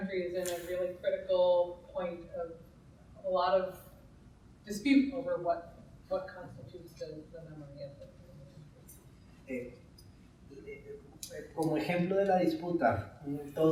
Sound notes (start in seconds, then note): 6.9 speaker trails off; 9.7 speaking in Spanish